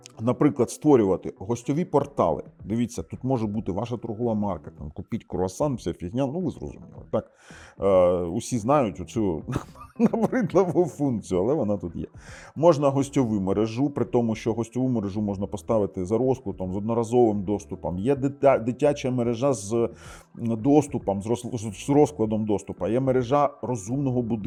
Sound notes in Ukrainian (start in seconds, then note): 9.5 сміх